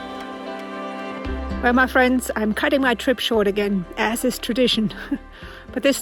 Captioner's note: laughs